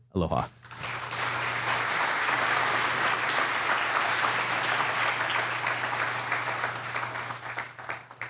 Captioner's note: applause